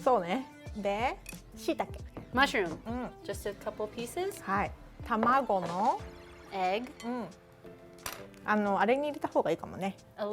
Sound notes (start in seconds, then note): 0.1 speaking Japanese; 5.3 speaking Japanese; 8.0 speaking Japanese